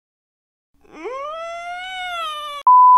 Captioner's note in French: Petit cri de désespoir